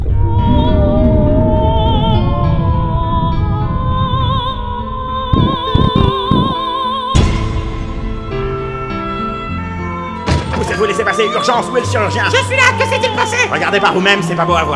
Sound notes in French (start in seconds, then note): 0.1 bruit de déjection; 0.2 Musique d'opéra; 7.9 Sirène d'ambulance; 12.6 imitation d'une voix de fille